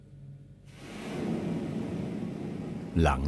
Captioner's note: burner hissing